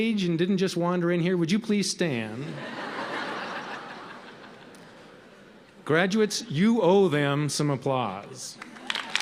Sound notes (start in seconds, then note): 2.4 audience chuckles